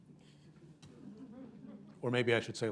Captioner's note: laughter